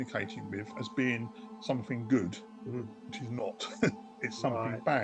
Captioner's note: chuckles